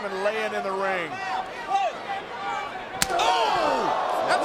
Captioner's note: crowd shout; hand slaps